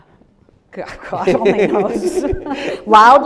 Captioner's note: laughing